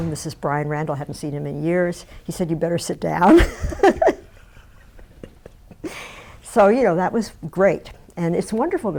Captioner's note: laughs